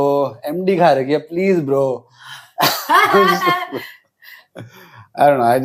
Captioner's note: laughs